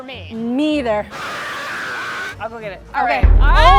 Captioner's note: screaming